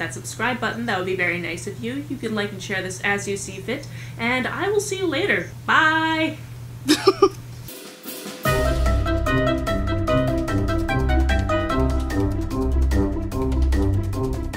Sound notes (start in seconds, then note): 6.8 laughs; 8.4 outro music